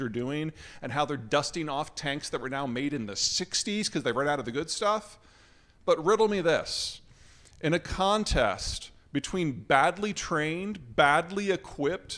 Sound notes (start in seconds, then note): none